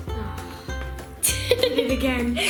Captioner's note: laughter